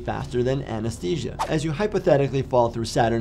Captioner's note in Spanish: transición silbante